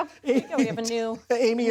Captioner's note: laughter